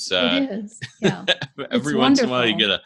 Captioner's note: laughing